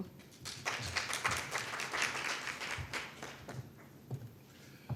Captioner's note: audience applauding